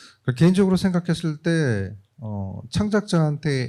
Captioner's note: speaking korean